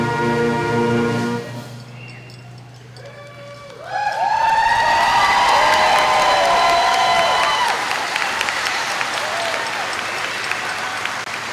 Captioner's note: cheering and Applause